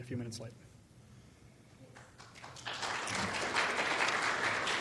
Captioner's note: clapping